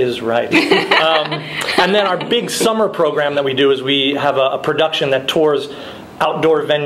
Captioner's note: laughing